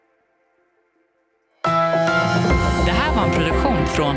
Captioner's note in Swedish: Logo sound